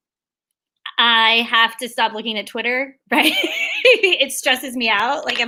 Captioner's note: laughs